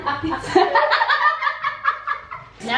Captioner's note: both laugh